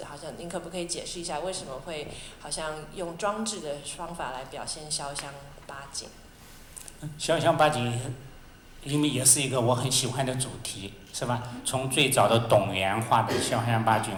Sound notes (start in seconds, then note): 7.8 Mandarin